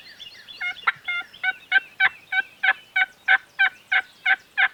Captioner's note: birds tweeting; turkey call yelping